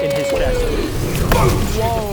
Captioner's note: boom!